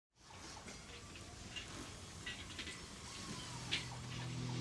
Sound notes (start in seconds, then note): 0.3 machinery